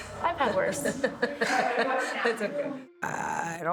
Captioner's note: laughs